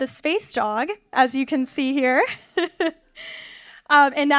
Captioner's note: chuckles